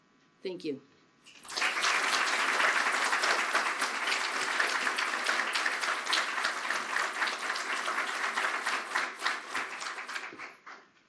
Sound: applause

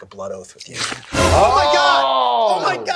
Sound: flesh squelching

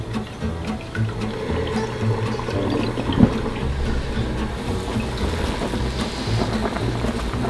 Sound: rapid tapping; SFX: Boiling water

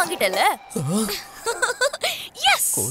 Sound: laughs

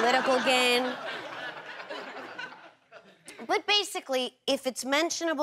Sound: laughter

